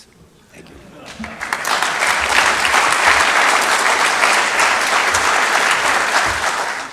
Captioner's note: audience laughing; audience applauding